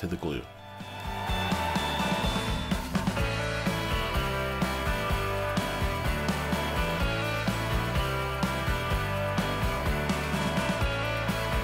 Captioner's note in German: Beifall